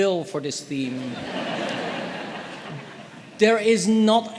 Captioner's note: audience laughing